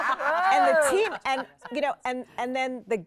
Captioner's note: everyone laughs